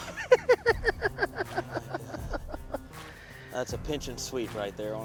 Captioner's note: loud laughter